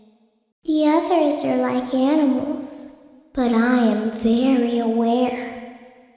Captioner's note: little Girl's Voice